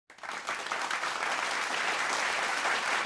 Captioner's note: applause